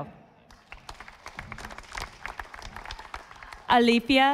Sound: audience applauding

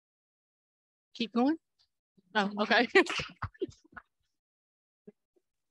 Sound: laughter

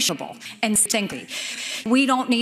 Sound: inhaling fresh air

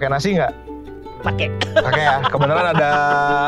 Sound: laughs

